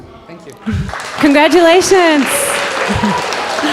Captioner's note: audience applause